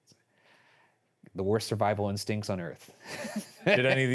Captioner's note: laughs